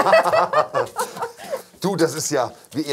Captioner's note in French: Rires